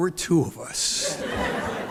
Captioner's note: laughter